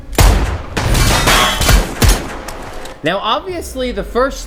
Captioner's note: gunshots clanging